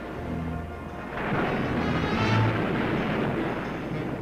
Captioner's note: waves crashing